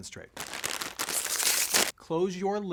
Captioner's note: scrunching